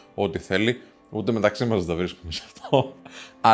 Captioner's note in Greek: γέλια